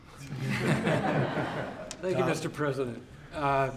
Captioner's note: laughter